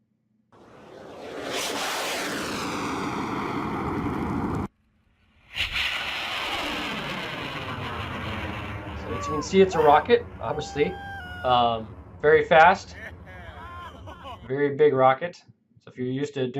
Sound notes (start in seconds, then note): 0.6 air whooshing; 5.8 engine blasting; 8.8 crowd cheering